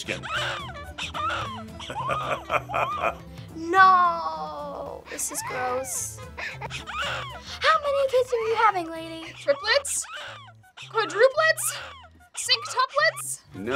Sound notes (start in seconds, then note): 0.2 baby wailing; 1.8 laughing; 6.3 baby wailing